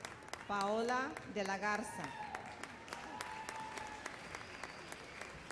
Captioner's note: applause